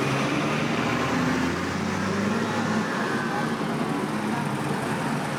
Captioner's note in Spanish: Tráfico vehicular